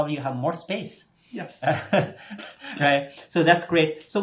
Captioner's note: laughs